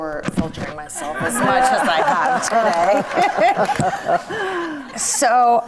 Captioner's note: audience laughs